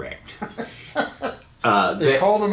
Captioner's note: laughing